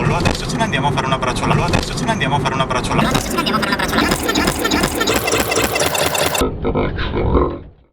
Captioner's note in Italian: interferenze